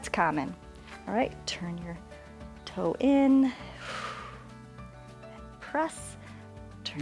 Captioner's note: exhales